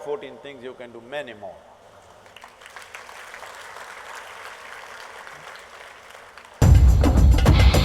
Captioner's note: applause